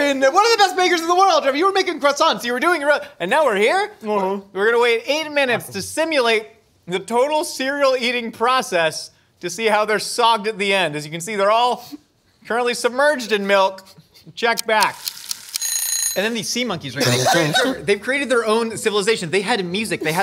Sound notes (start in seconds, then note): 14.5 timer Ticking; 15.4 timer Ringing